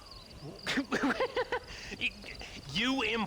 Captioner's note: laughs